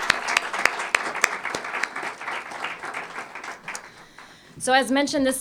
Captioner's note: applause